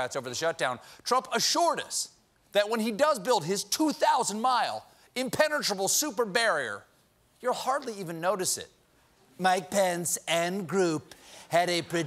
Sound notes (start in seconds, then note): none